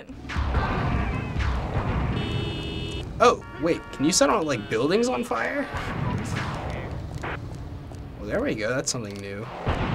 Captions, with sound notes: (firing and explosions) (car honks) - Oh, wait. Can you set buildings on fire? Well, there we go. That's something new.